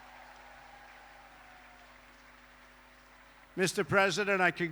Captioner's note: applause